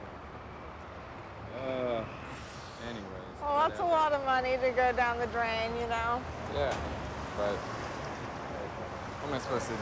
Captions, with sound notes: Get the fuck out, you know? (groans) Anyway. - Well, that's a lot of money to go down the drain, you know? - Yeah, but